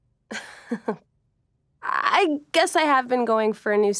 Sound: laughs

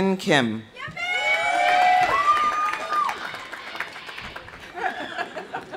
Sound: audience cheering; audience applauding; people laughing

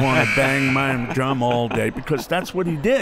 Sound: buzzer

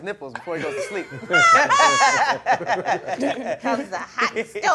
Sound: group laughing

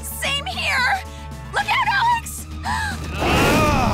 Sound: roars

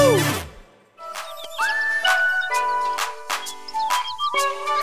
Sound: playful whistling

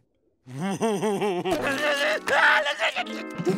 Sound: giggling; screaming

